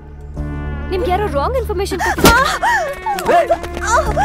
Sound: slaps

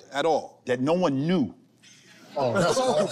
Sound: laughter

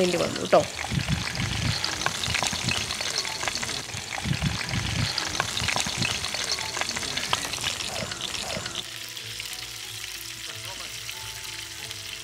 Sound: sizzling

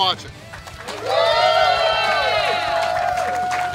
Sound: cheering & Clapping

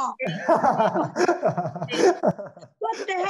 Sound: laughs loudly

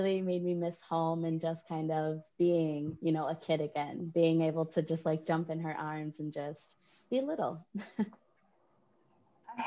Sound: laughter

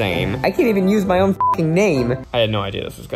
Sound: beeps

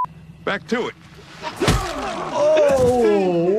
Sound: bat thuds

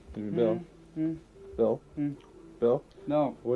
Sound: mumbles

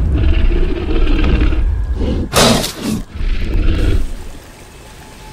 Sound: T-Rex Stomping and Snorting Sounds

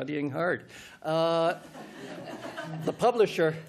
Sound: laughter

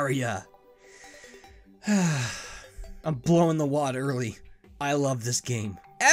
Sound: inhales and exhales happily

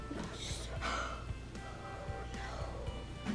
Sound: gasps

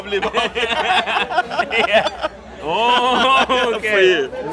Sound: they laugh

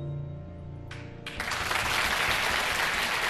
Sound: cheering and applause

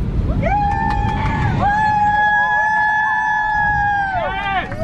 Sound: cheering and applause

